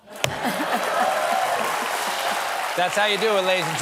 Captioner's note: applause